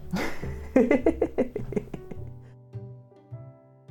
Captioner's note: laughs